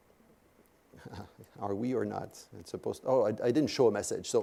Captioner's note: laugh